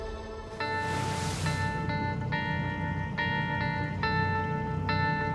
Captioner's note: waves crashing